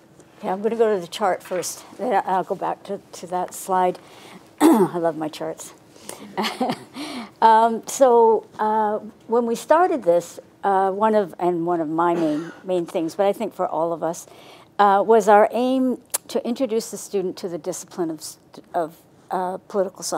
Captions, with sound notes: Okay, I'm gonna go to the chart first. I'll go back to that slide. I love my charts. (laughs) When we started this, one of, and one of my main things, but I think all of us was our aim to introduce the student to the discipline of political science.